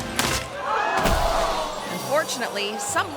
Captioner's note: crowd gasps; rope snaps; crowd; thuds